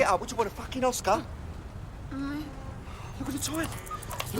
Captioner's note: moaning